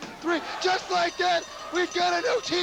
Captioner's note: bell ringing